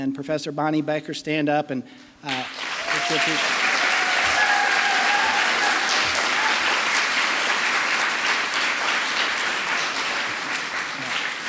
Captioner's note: applause